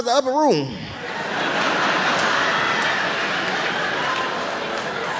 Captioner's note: audience laughing